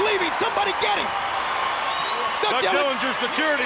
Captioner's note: crowd screaming